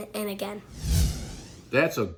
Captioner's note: air whooshing